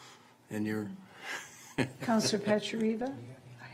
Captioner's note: laughing